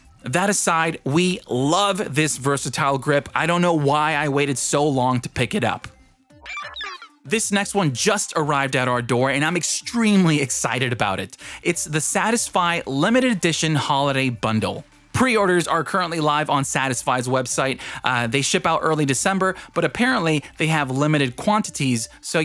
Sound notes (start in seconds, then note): 6.4 digital sounds